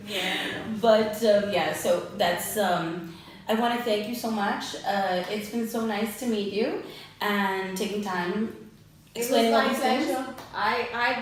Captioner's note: laughs; ahh